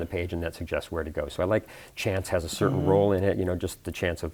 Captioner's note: hmm mm